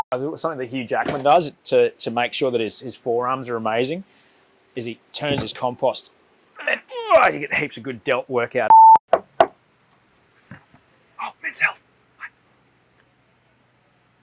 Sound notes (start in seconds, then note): 10.1 whispering